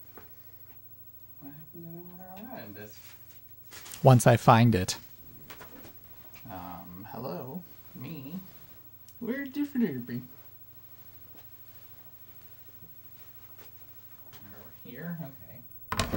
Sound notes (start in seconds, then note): 9.0 said like the Swedish Chef: "Ver de flurbey?"